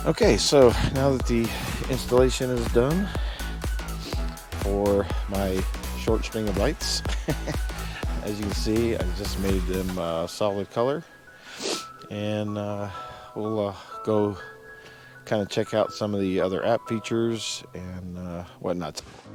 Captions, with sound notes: Okay, so now that the installation is done for my short string of lights, (chuckles) as you can see, I just made them a solid color. And we'll go kind of check out some of the other app features and whatnot.